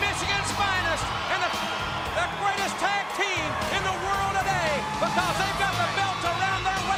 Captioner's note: crowd cheering